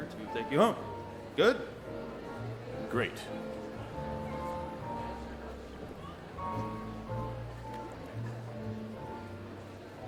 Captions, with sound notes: to take you home. Good? - Great (light piano music) (people chattering)